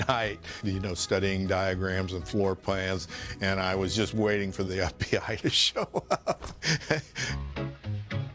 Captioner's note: laughs